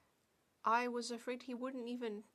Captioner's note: speaking French